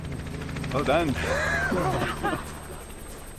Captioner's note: chuckles